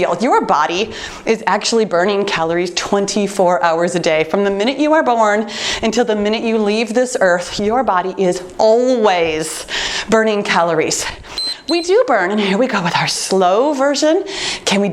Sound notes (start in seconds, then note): 11.3 timer beeps